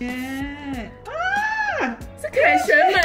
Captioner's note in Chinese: 尖叫